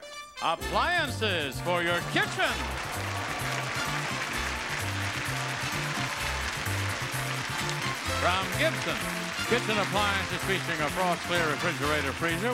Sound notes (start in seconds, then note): 1.8 audience applauding; 2.8 upbeat music